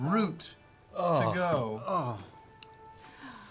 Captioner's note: groans